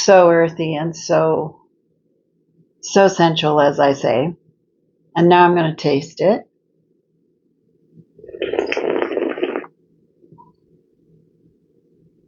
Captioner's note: slurp